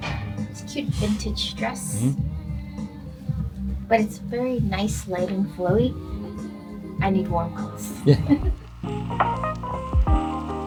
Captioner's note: laughter